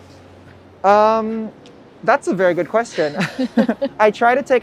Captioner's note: both laugh